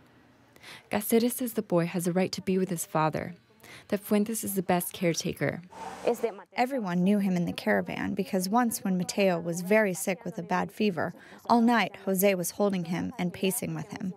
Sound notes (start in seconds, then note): 6.0 through translator